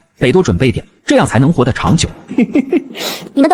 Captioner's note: evil chuckle